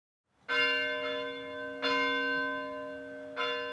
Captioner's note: bell ringing